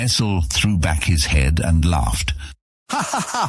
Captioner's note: laughs